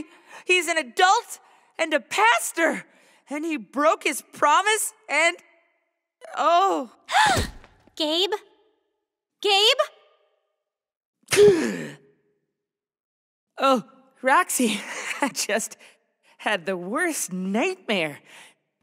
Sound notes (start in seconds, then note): 7.3 gasps; 11.4 Gabe gasping